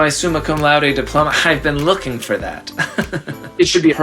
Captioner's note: fake laugh